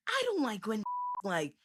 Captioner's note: beep